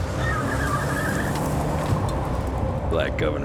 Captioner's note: tires squealing